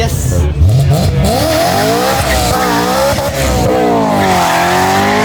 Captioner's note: car engine revving